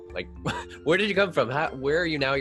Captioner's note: laughs